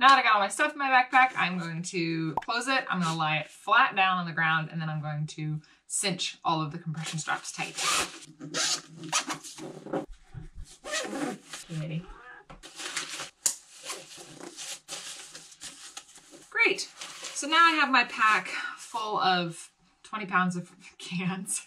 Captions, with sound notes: Now that I got all my stuff in my backpack, I am going to close it. I'm gonna lie it flat down on the ground, and then I'm going to cinch all of the compression straps tight. Kitty. (cat meows) Great, so now I have my pack full of 20 pounds of cans.